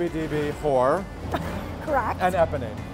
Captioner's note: laughs